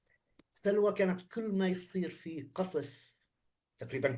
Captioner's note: speaking arabic